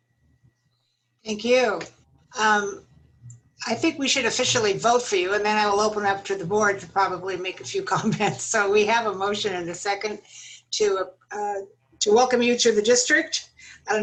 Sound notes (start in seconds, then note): 8.2 laughter